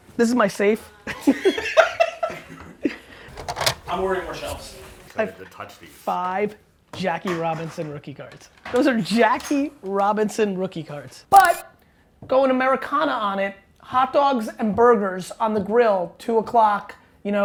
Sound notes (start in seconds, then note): 1.3 laughing